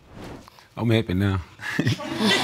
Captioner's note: chuckles